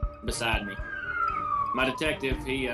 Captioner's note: siren